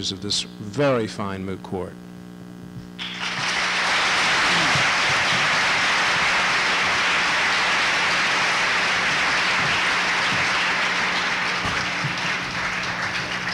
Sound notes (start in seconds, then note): 2.9 applause